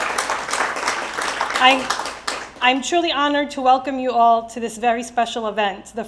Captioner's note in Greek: Χειροκρότημα